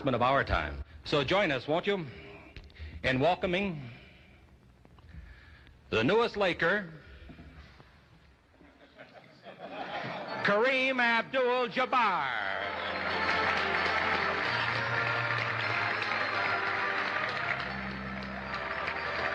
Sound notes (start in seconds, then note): 8.6 laughter; 12.5 applause